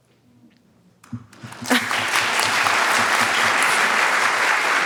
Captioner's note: audience applauds